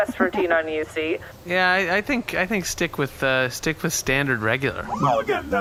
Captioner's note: C-53 chimes